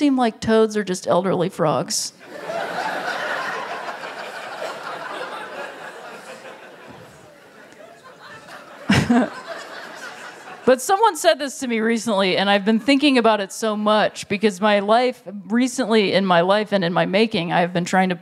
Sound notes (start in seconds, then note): 2.2 laughter